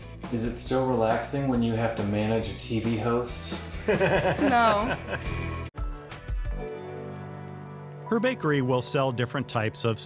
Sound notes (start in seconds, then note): 3.7 laughing; 5.9 enchanting music